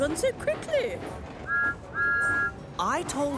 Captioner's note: whistle toots